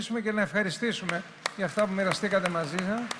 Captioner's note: applause